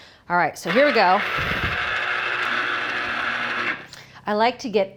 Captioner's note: juicer whirring